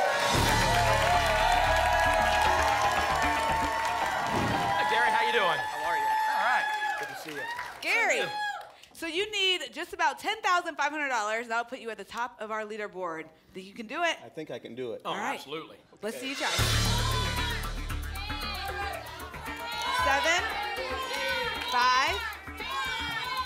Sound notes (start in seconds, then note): 18.0 audience shouting numbers